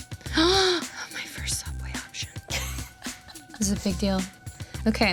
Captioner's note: inhales loudly